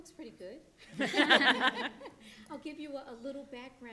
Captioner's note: panelists laughing